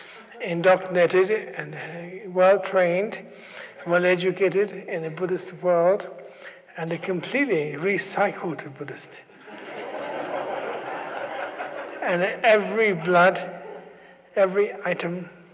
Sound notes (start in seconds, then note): 9.3 laughter